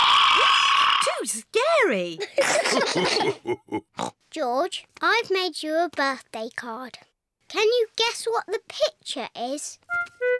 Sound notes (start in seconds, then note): 2.3 all laugh; 3.7 oinks